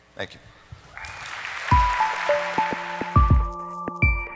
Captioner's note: audience applauds; light music